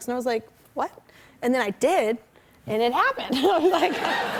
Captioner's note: laughter